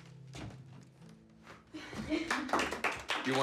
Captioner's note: group chuckles; group claps